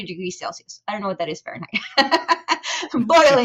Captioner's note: laughing